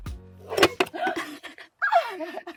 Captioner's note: swooshing sound; laughing